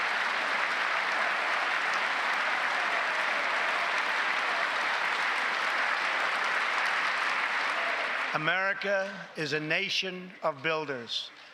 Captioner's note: applause